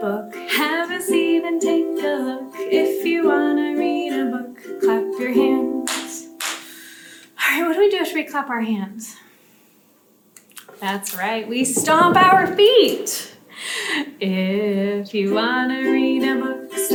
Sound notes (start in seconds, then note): 6.4 hands clap